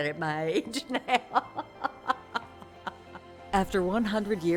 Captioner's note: laughing